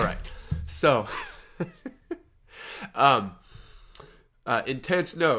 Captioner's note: laughs